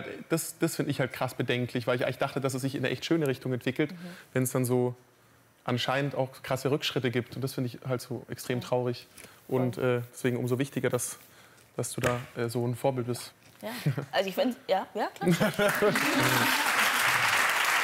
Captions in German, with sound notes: Das find ich halt krass bedenklich, weil ich eigentlich dachte, dass es sich in 'ne echt schöne Richtung entwickelt, wenn's dann so ... anscheinend auch krasse Rückschritte gibt, und das find ich halt so extrem traurig. Und deswegen umso wichtiger, dass du da so 'n Vorbild bist. Ja, also ich find's ... (Leises Klatschen) Ja, ja, klatscht. (Gelächter, Applaus)